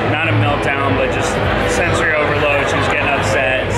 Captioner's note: none